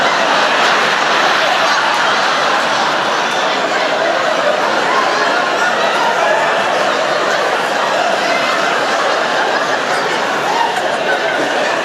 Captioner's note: laughter